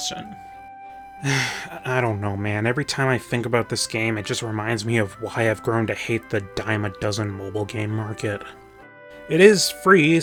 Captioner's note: sigh